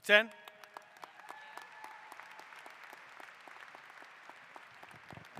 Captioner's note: applause